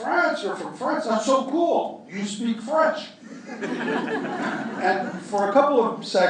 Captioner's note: laughter